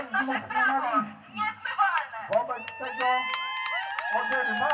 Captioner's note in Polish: aplauz